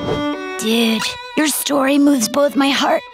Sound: none

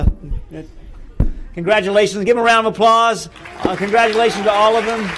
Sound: applause

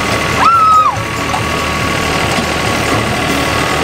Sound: screams

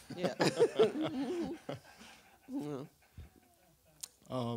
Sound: and audience laughs

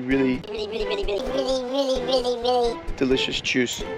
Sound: in a high pitched voice

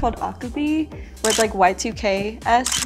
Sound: camera shutter clicks

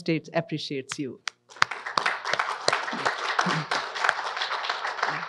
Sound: audience applauds

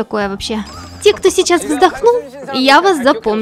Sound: who sighed

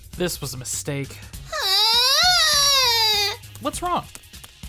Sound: screaming

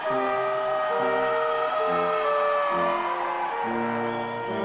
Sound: audience cheers

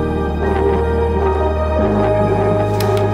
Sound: pulsing vibration

